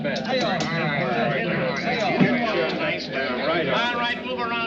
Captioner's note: players chattering